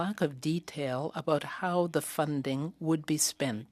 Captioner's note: speaking French